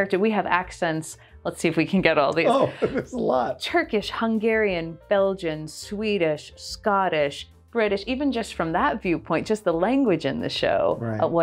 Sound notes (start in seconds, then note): 2.4 chuckles